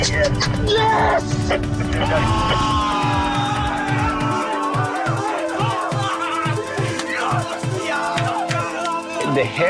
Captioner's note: laughs